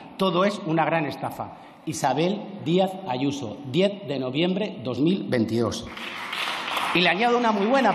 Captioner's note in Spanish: Aplausos